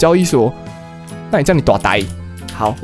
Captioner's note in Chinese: 台語